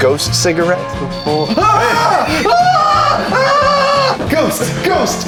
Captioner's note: yelling